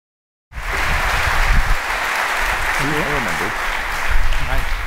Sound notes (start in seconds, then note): 0.5 applause